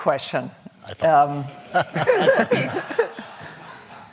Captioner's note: laughter